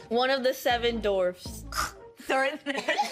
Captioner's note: scoffing; all laughing